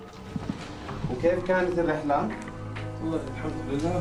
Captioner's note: speaking foreign language